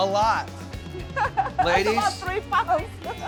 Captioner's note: chuckling